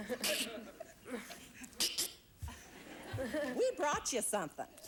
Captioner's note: audience laughing; giggles